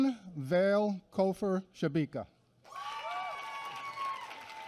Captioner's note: applause